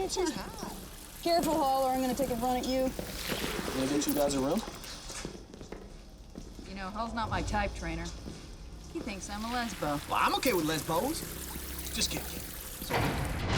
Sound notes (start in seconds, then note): 4.7 footsteps tapping